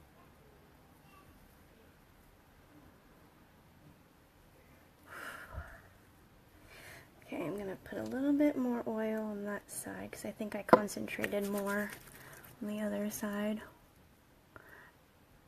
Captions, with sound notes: (exhales) Okay, I'm gonna put a little bit more oil on that side, 'cause I think I concentrated more on the other side.